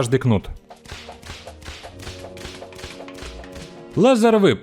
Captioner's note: whip sounds